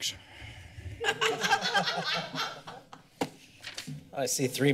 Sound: laughter

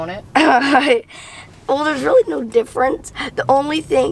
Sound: laughs

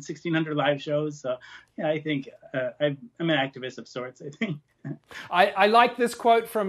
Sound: chuckling

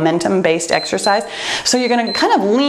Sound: timer beeps

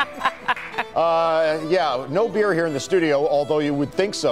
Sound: laughter

